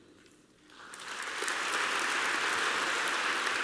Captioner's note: applause